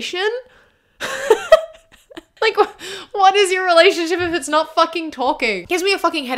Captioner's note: laughs